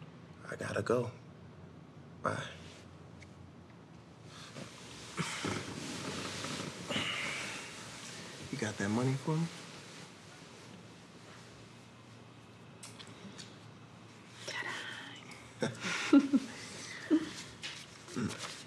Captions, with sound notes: I gotta go, bye. [Jacob sighs] You got that money for me? -Ta-da. -[both chuckle]